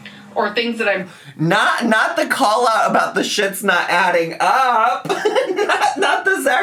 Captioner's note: laughs